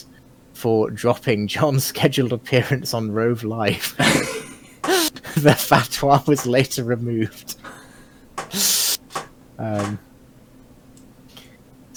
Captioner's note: chuckling